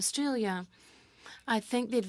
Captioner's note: speaking French